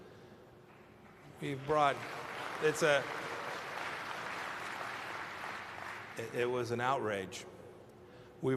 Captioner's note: applause